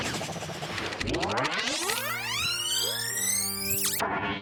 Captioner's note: tape rewind